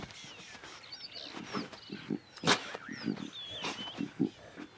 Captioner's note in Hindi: चहचहाहट